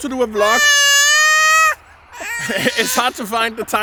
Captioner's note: baby crying